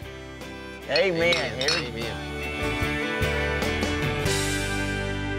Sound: glasses clinking

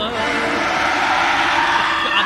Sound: screeeeeech

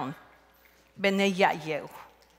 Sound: speaking Zapotec

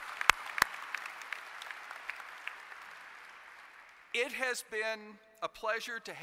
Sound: applause

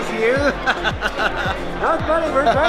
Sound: laughing

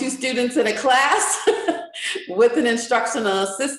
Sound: chuckles

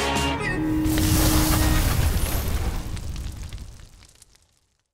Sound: fire sizzles

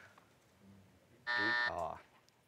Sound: laughs; buzzer

